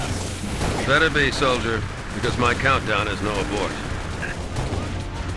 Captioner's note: radio